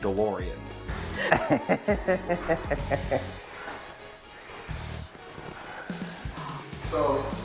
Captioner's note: laughter